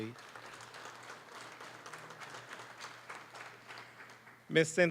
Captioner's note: applause